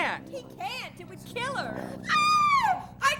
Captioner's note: screams